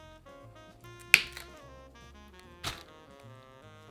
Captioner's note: cauliflower snapping